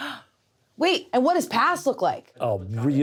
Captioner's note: gasps